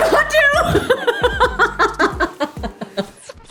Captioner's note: laughter